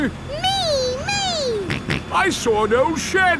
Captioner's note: snorts